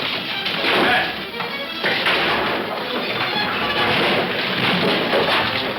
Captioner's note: fists thudding; suspenseful music